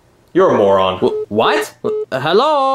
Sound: phone beeping

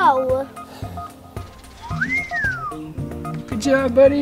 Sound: whistles

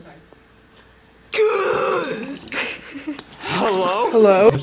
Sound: gasps

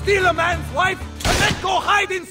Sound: gunshot

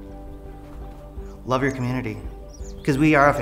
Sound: birds chirping

